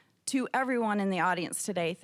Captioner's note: none